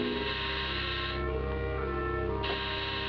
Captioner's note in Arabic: جرس